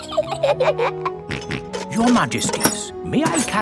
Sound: both giggle; snorts

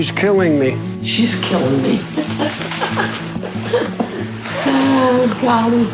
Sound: laughs

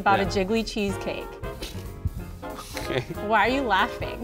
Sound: laughs

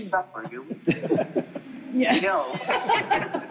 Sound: laughing

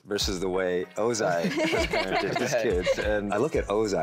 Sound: all laughing

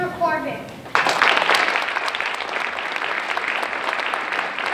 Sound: applause

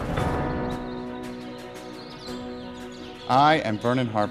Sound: birds tweeting

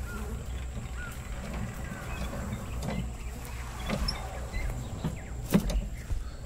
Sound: footsteps returning/with squeaking wheel barrow

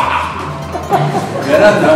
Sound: laughs

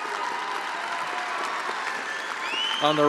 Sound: attendees applauding

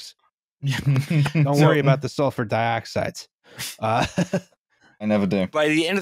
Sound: laughter

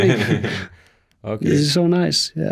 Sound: laughing

